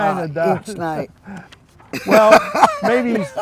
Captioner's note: laughs